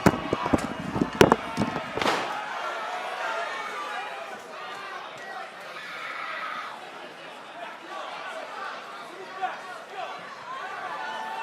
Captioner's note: crowd chatter